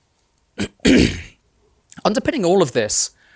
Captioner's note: throat clearing